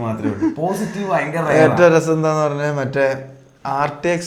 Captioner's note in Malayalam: പൊട്ടിച്ചിരി